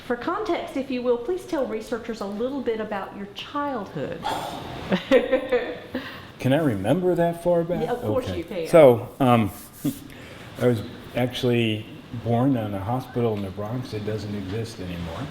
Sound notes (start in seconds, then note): 4.7 laughter